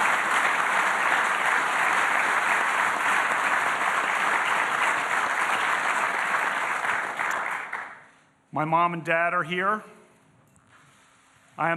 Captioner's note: applause